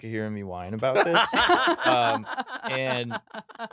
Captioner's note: laughing